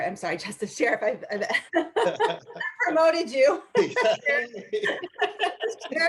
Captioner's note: laughter